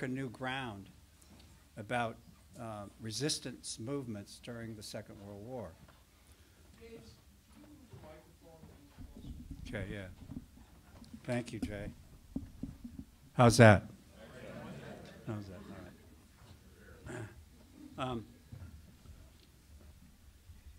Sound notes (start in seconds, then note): 14.0 audience murmurs